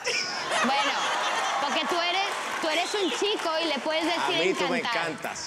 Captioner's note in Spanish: risas